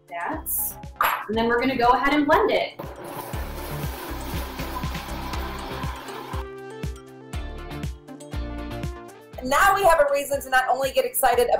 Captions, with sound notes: Like that and then we're going to go ahead and blend it. (blender grinds) (upbeat music) - Now we have a reason to not only get excited